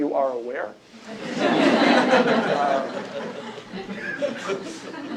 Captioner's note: laughter